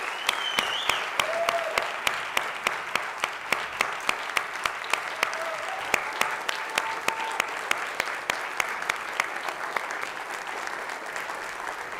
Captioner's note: applause